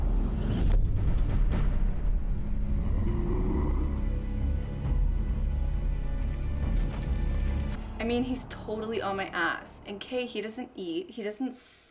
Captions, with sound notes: [crickets chirping] [growly breathing] I MEAN, HE'S TOTALLY ON MY ASS. AND, KAY, HE DOESN'T EAT.